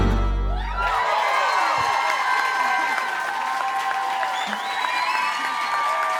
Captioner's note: applause and cheering